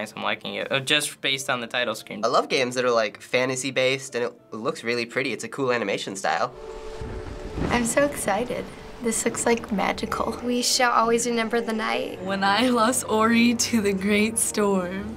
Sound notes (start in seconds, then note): 6.5 in game: thunder rumbles